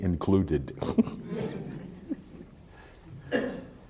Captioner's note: laughter